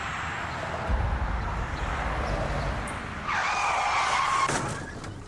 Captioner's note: car sounds